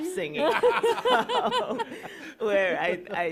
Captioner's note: laughter